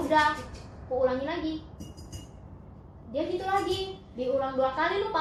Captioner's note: the sound of the cup